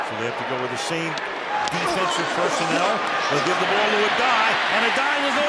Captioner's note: cheering